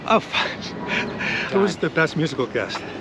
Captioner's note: laughs